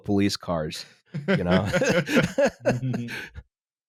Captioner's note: laughter